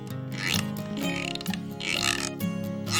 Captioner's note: rattling washboard